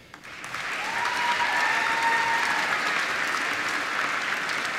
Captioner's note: applause